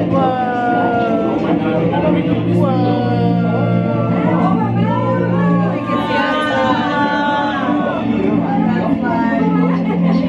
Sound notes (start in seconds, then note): 4.6 crowd chattering; 4.6 dramatic triumphant music